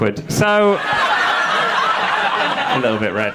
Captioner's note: audience laughing